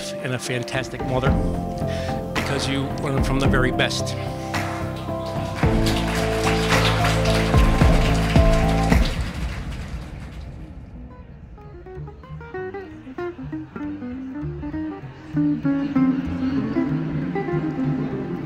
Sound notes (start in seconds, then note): 4.1 group clapping; 5.2 uplifting music; 11.7 upbeat music